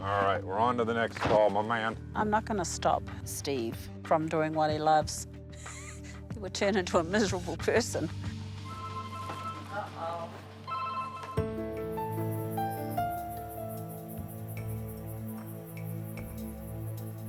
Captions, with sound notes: All right. We're on to the next call, my man. - I'm not gonna stop Steve from doing what he loves. (chuckles) He would turn into a miserable person. (phone ringing) Uh-oh. (soft dramatic music) (crickets chirping)